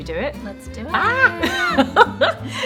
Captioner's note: laughing